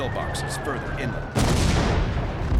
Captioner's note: explosion